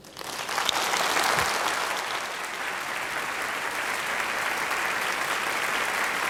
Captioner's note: applause